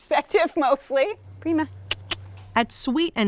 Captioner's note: clicks tongue